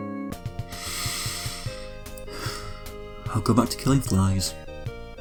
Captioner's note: sigh